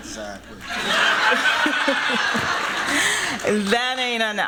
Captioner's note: laughter